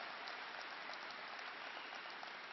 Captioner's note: applause